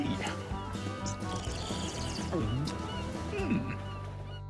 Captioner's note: slurps